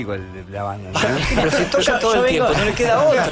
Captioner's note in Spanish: risas